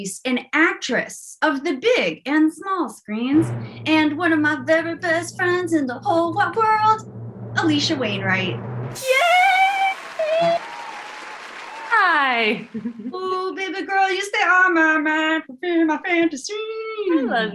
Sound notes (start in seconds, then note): 9.0 applause